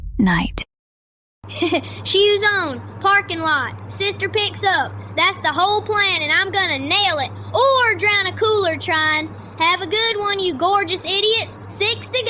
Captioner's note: laughs